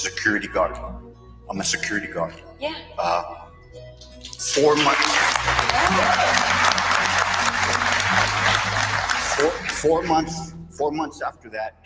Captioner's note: applause